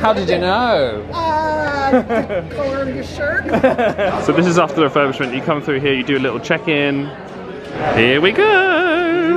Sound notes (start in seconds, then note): 1.4 laughs; 3.7 laugh